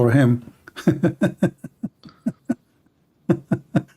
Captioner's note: Ketawa